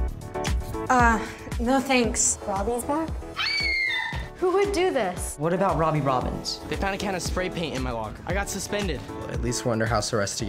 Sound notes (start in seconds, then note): 3.3 screams